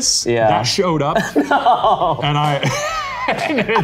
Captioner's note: laughs